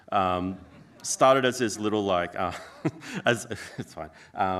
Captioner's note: laughs